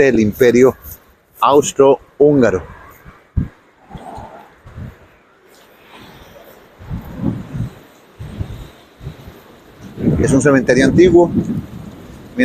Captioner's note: ambient sound with the strong wind of the day